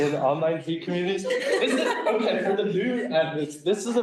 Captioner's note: laughing